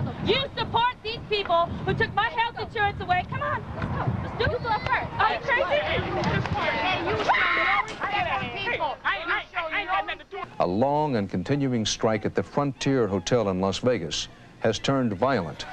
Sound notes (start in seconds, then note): 7.2 screaming